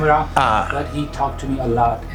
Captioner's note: laughs